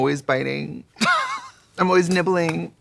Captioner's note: Katya laughing